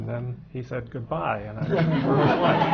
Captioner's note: laughter